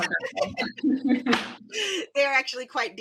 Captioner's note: laughs